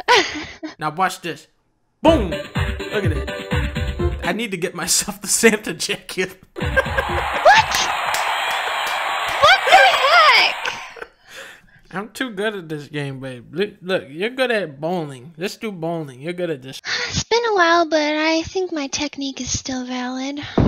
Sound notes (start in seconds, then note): 6.6 laughing; 6.6 laughs; 6.7 clapping; 10.6 laughing